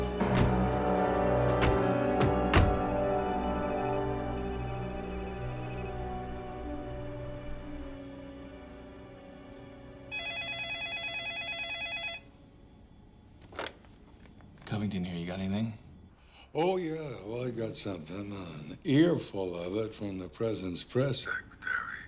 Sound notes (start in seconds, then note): 2.6 electronic beeping; 10.1 phone ringing